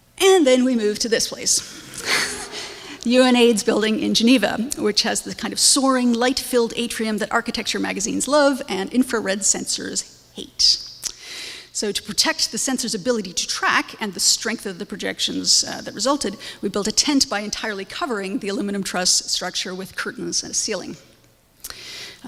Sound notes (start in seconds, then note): 2.0 audience laughs